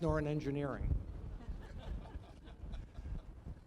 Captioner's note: laughter